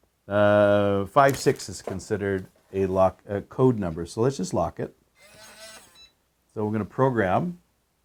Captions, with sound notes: Five six is considered a lock code number. So let's just lock it. (powerbolt buzzing) So we're gonna program.